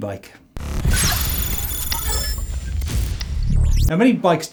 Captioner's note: electronic sounds